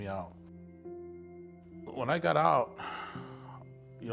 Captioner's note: sighs